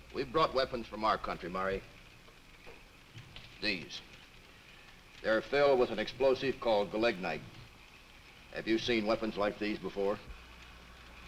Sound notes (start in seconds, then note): none